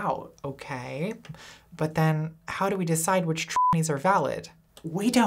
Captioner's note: beep